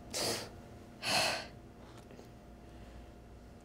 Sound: sighs

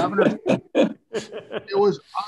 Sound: crowd laughing

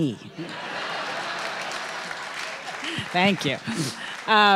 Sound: audience laughing and applauding

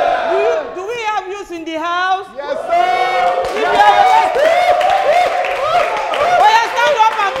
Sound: clapping

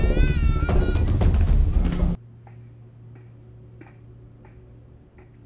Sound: foreboding music; footsteps plod

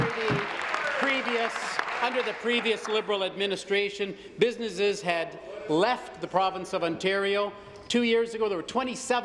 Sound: applause

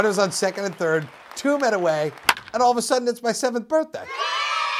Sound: crowd clapping; crack of a bat; kids yelling

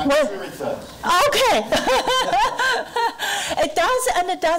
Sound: laughing

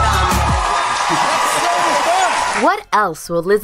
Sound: audience cheering

